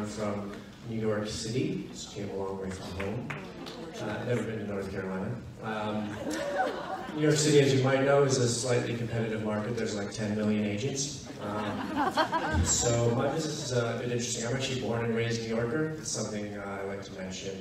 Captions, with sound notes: I'm from New York City, so came a long way from home, never been to North Carolina. (audience laughs) New York City, as you might know, is a slightly competitive market, there's like, ten million agents. (audience laughs) So, my business is a bit interesting. I'm actually a born and raised New Yorker, it's something I like to mention